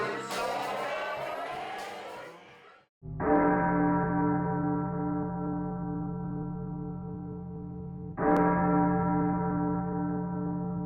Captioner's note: applause